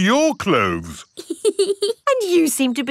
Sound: laughs

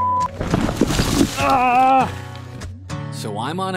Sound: grunting

